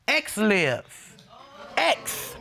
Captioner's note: audience groaning